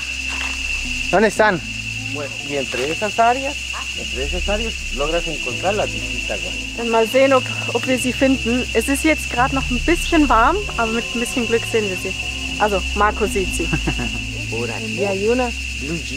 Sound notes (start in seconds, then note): 0.5 in Spanish; 14.7 in Spanish